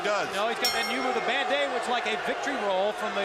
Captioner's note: bell ringing